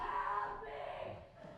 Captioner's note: none